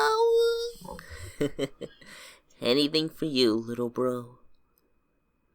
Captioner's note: chuckles